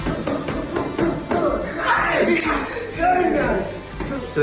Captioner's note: martial artists grunt